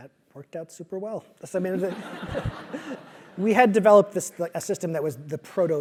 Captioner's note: laugh